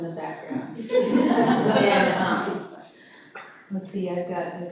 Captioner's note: audience laughing